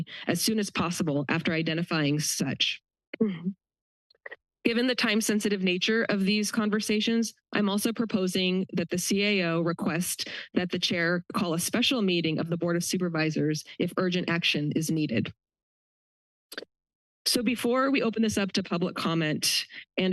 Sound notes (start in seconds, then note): 3.2 pause; 15.6 pause